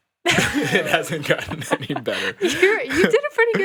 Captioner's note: laughs